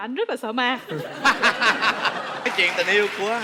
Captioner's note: laughing